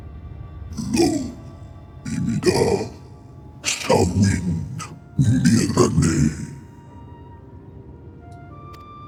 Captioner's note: speaking in foreign language